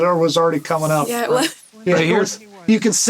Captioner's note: chuckles